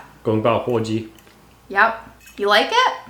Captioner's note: speaking Chinese